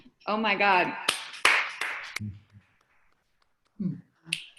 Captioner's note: applauding